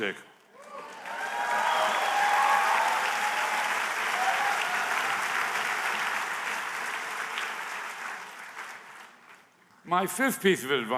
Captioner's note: applause